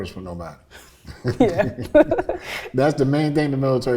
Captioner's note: both chuckle